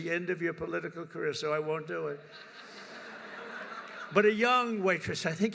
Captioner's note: laughter